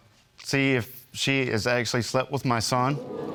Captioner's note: audience gasping